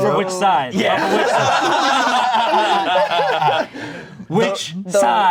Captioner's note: everyone laughing